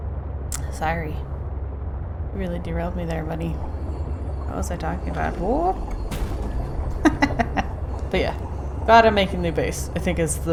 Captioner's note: laughs